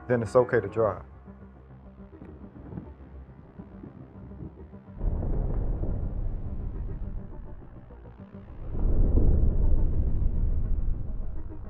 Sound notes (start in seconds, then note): 2.4 dreamy electronic music; 5.0 thunder in distance; 8.5 dreamy electronic music